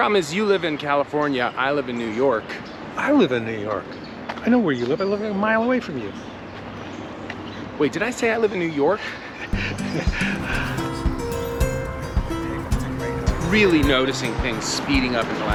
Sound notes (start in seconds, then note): 9.5 laughs; 9.5 mellow music